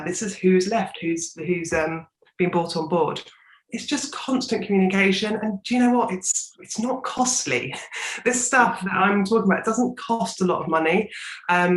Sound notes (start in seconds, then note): 7.7 chuckles